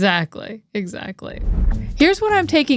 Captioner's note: graphics whooshing; upbeat music